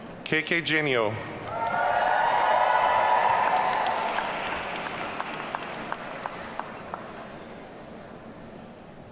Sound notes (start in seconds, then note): 1.4 audience cheering